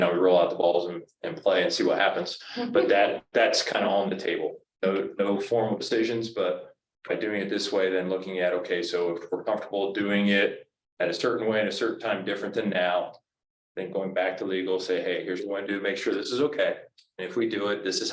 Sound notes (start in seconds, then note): 2.6 woman laughs